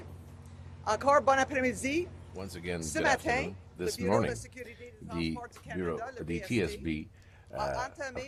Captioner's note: speaking French